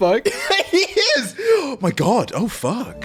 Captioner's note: laughing